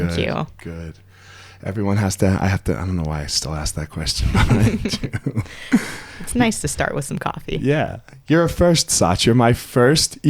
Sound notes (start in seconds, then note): 4.2 both laugh